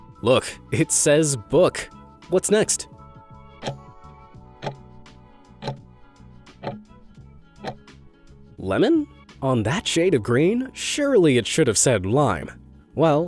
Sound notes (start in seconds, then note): 3.8 timer ticking